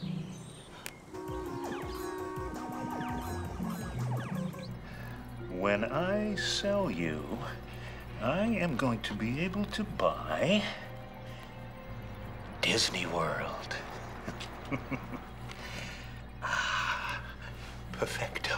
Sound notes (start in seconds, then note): 14.2 laughs